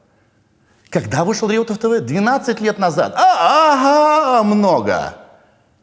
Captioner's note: makes a weird moan